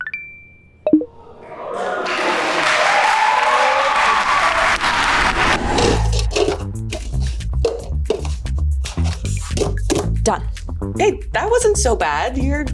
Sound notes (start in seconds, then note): 0.1 electronics ring; 1.2 group applauds; 2.7 group cheering; 5.9 rhythmic music; 7.6 cups clattering